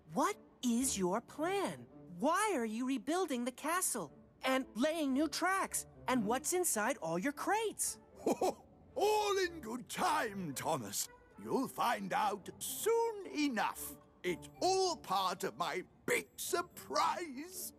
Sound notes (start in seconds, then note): 8.2 laughs